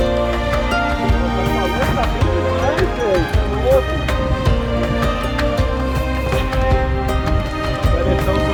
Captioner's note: cheering and words in portuguese